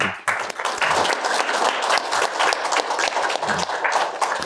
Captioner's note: applause